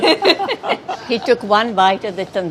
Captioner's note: laughing